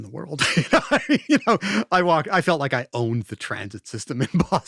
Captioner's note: laughs